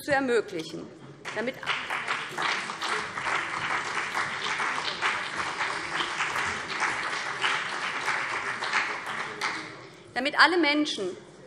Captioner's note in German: Beifall BÜNDNIS 90/DIE GRÜNEN und CDU